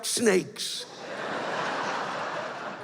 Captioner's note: laughter